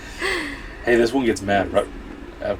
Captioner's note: laughing